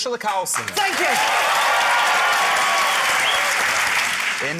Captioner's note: cheering, applause